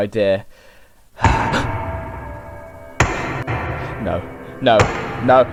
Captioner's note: loud Walking Noises